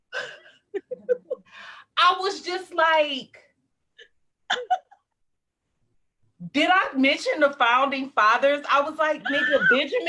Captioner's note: laughs